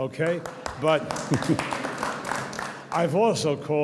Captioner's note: audience applauds